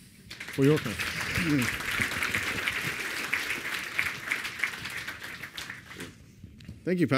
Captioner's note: applause